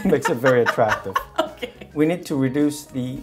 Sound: laughing

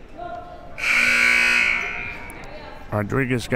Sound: buzzer

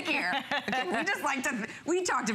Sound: laughter

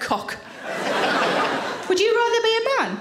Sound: audience laughs

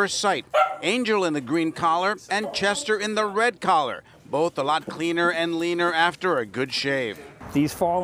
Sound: barking

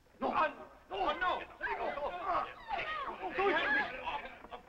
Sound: prisoners crying out

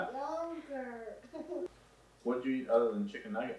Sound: laughs like a little gremlin

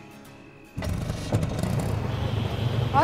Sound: rickshaw running

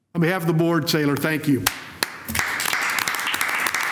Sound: applause

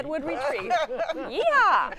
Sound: laughter

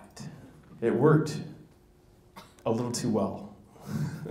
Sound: laughs

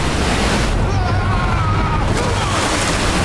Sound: screaming

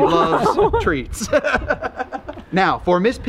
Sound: laughing

